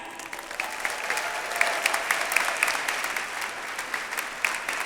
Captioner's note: audience applauds